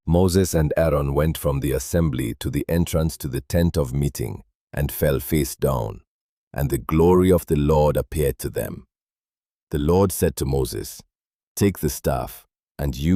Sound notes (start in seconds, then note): 10.9 calmly